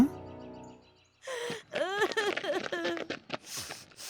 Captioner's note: crying